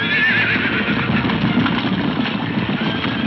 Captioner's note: hooves thundering